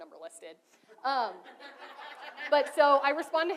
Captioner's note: audience laughs